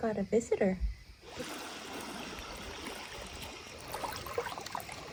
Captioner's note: water lapping